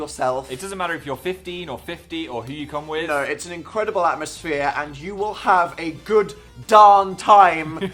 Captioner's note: chuckles